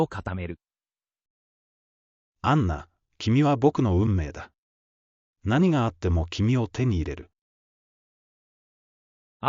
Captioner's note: inner monologue